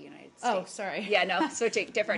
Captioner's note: laughter